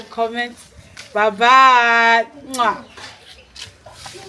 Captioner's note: kisses